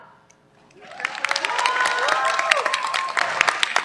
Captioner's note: cheers, applause